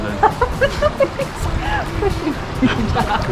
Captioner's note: laughter